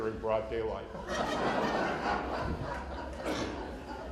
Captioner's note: laughter